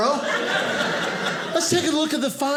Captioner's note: audience laughing